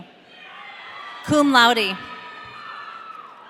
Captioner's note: audience cheering